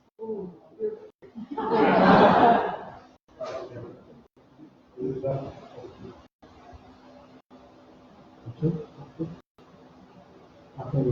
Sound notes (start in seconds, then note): 1.3 laughter